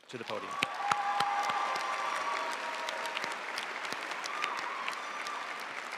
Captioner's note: audience cheering and applauding